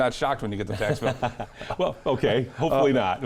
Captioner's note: laughing